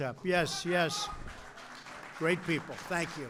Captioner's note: applause